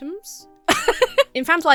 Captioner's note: laughs